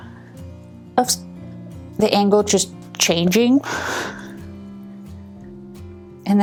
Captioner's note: laughs